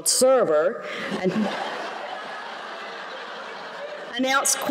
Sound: laughter

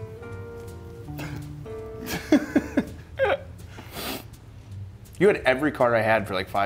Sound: laugh

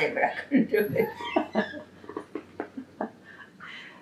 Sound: laughs

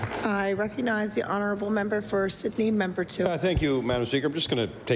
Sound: applause

